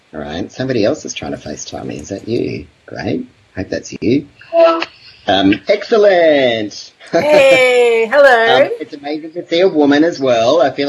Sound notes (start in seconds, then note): 4.5 facetime connects